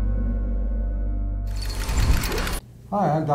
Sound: slow techno music; gears turning

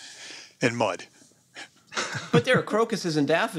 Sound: chuckles

